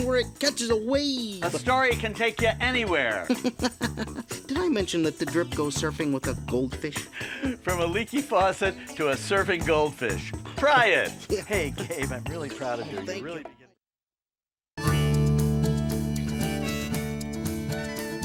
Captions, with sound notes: where it catches a wave. - A story can take you anywhere. (giggling) - Did I mention that the drip goes surfing with a goldfish? - From a leaky faucet to a surfing goldfish. Try it. Hey Gabe, I'm really proud of you. (inspiring music)